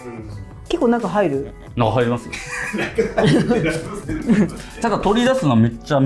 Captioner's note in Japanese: 笑い